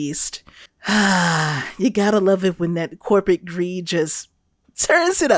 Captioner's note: le sigh